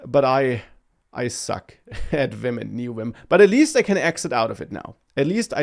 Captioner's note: laughs